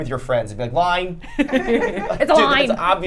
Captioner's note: group laughing